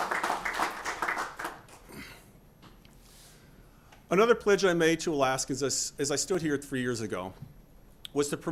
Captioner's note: applause